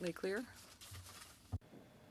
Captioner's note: speaking French